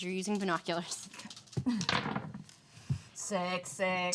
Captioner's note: dice rattles